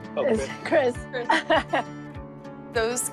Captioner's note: laughing